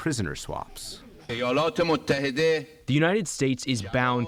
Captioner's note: through translator